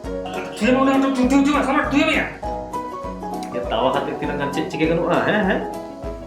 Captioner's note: clatter among friends